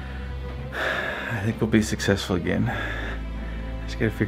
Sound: sighs

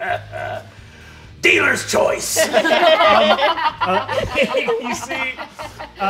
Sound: laughing; all laughing

